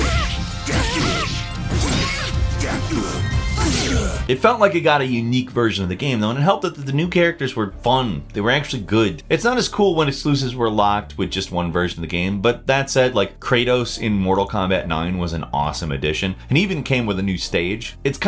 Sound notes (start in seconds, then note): 0.0 character yells